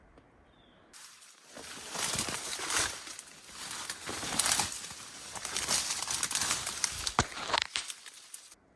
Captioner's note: sound of walking over the branches